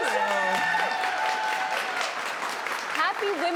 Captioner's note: applause